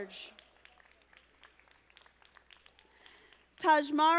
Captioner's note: audience applauding